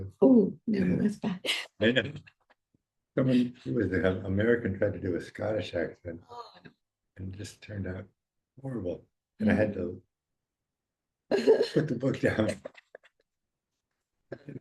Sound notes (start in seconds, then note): 1.8 chuckles; 6.3 groaning; 11.4 laughing